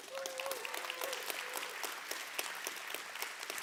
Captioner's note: audience clapping